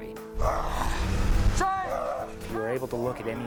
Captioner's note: grunting